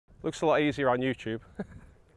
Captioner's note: laughs